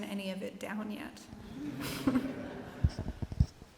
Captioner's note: laughter